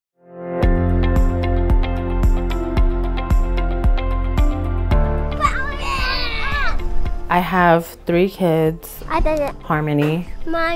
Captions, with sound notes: (upbeat music) (children yelling) - I have three kids. Harmony,